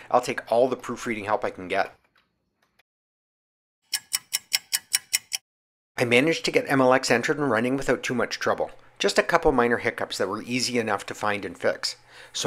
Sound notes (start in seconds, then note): 3.8 sound of a ticking clock